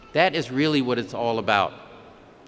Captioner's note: none